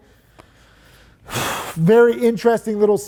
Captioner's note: sighing